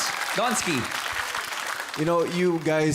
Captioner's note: crowd applauding